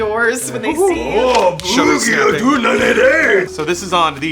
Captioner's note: incoherent male Japanese noises